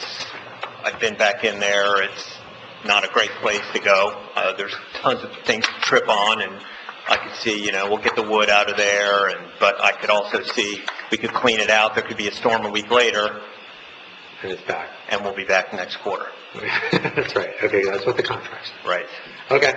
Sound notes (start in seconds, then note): 16.5 laughing